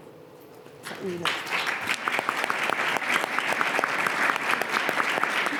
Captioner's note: attendees applauding